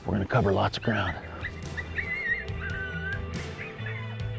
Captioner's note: coyote calls; thoughtful music